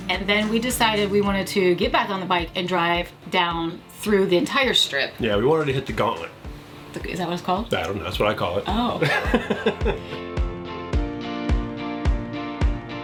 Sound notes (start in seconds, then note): 8.8 laughing